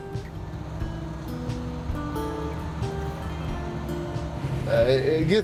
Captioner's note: tractor engine revving